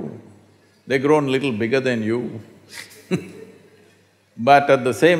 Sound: laughs

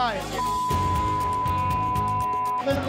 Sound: beep

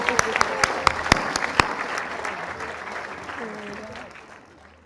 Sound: applause and cheering

